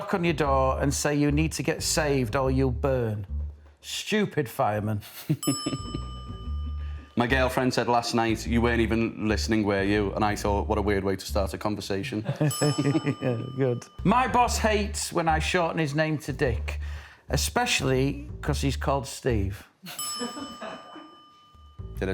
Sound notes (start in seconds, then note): 5.0 laughs; 12.1 laughs